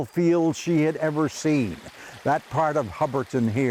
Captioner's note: brook trickling